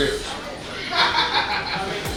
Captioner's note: hahaha